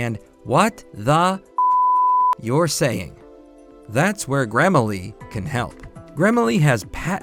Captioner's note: beep!